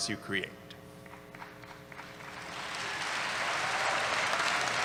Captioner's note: applause